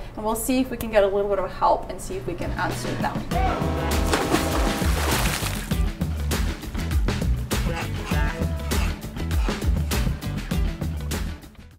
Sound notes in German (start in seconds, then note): 3.2 fröhliche Musik; 3.9 spritzendes Wasser